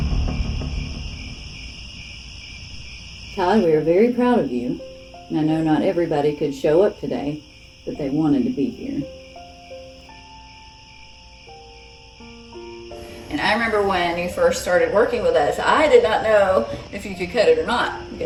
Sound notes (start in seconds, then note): 0.8 crickets; 3.3 peaceful music, crickets